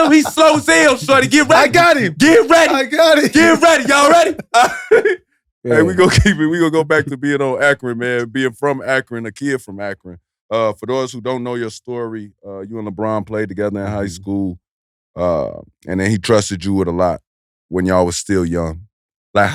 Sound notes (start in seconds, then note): 4.7 Iman and Maverick laugh